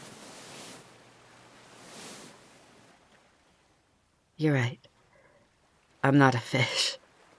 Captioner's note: rustling